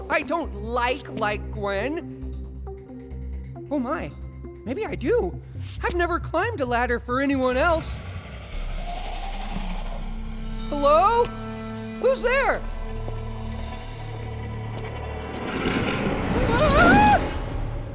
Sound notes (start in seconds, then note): 7.9 distant growling; 14.8 growling; 16.2 screams